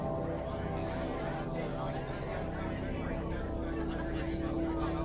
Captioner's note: patrons chattering